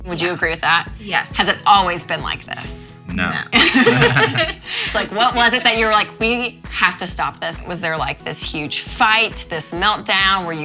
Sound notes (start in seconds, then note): 3.5 both laugh